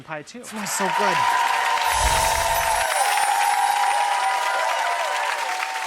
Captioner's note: applause